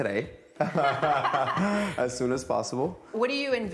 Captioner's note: both laugh